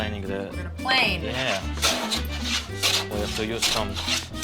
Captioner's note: scraping sound